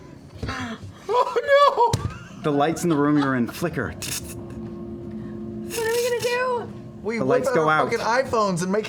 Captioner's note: electric flickering